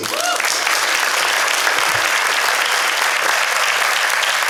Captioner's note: applause